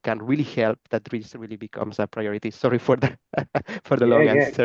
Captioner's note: laughs